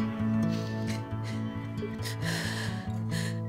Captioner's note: Ashley sobbing